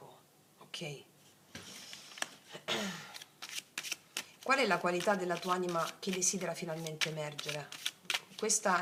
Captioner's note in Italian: schiarire la voce